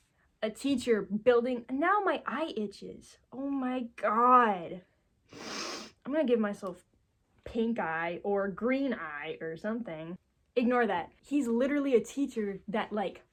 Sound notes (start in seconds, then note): 5.3 sniffles